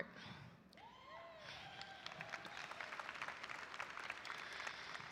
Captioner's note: audience applauding